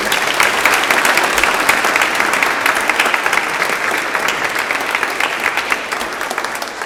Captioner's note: applause